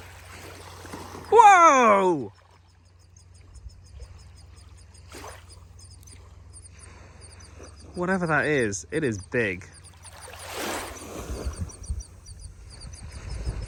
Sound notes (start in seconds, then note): 0.0 water splashes